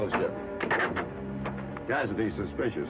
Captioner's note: lock clicks